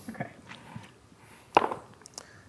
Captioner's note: dice rolling